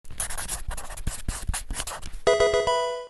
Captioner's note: marker scratching; electronic video game sound